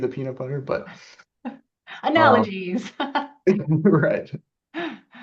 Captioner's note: laughs